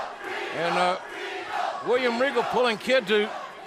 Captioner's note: crowd cheering